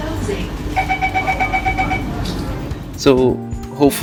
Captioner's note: Door closing chime on the NSEWL